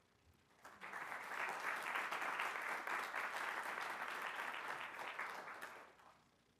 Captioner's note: applause